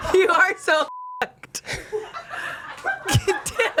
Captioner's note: everyone laughs; beep